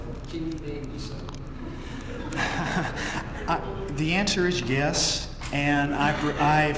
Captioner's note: laugh